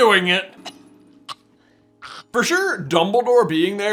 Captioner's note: coughs and hacks